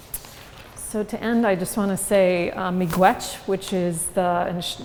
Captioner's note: non-english speech